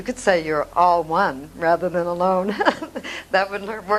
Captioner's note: laughs